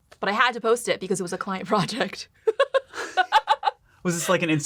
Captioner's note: laughs